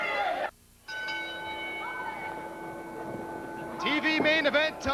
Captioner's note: bell ringing